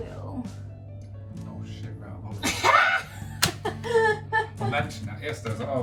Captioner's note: laughs